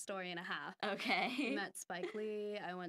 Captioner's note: laughing